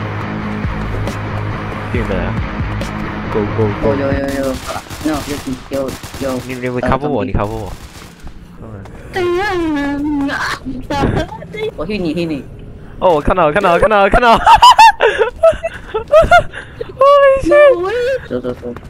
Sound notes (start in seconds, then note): 9.2 cracked his voice; 14.2 laughing